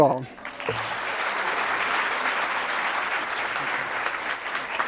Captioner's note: audience applauds